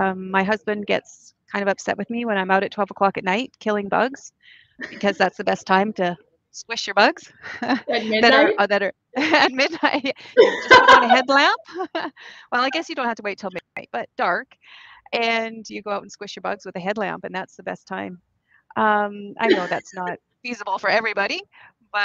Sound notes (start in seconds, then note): 9.2 laughing